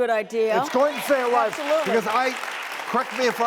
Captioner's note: crowd cheering